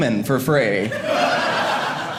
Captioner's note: audience laughing